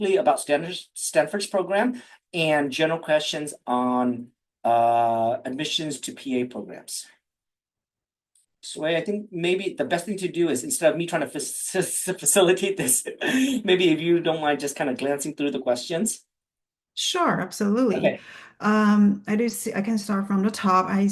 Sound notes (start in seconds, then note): 12.3 chuckling